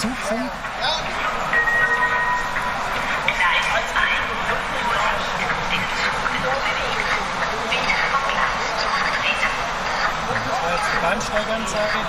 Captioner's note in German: Gong